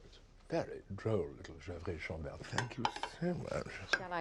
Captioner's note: speaking in foreign language